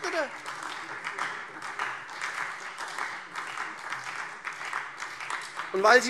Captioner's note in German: Beifall